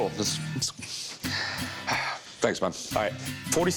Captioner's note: sighs